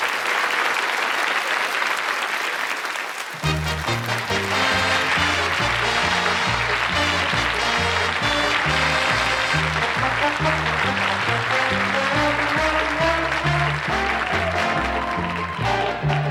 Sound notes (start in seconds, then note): 0.6 applause; 8.0 instrumental music